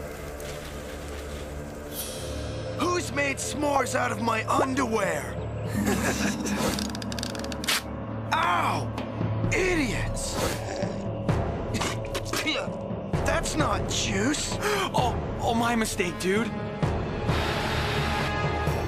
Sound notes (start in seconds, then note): 5.6 Duncan and Geoff Laughing; 10.4 Harold Spitting